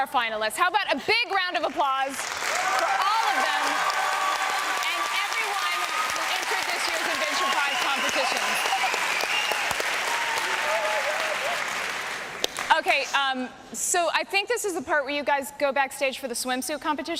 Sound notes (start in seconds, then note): 9.7 applause and cheering